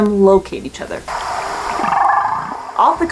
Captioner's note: whale vocalizations